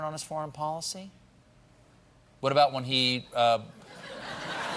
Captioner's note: laughter